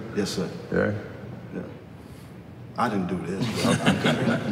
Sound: laughter

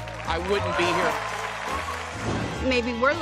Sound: cheering

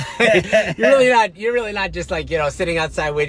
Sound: laughs

